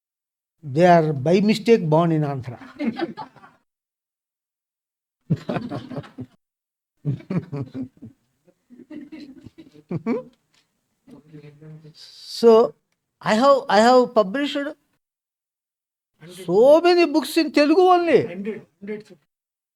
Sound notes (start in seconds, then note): 3.2 laughs